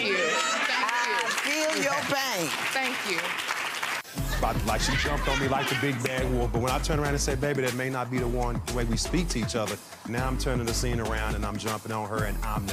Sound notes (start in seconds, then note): 3.4 audience applauding